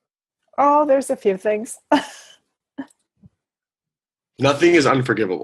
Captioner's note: sniffles